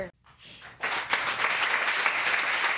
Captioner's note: audience clapping